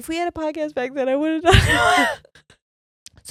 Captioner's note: both laughing